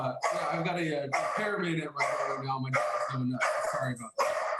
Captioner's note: dog barking